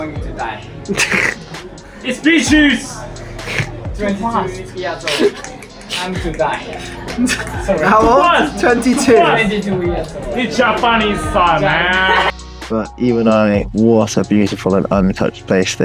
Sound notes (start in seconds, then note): 9.0 random clicking